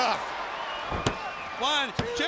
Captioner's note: crowd cheering